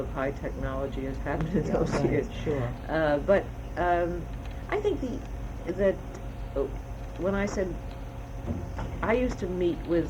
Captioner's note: laughs